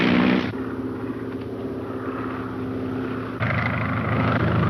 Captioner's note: airplane engine roaring